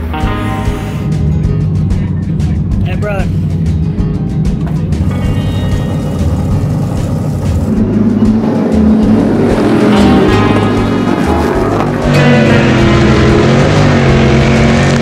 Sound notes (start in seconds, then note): 0.1 upbeat Latin music; 4.4 engines revving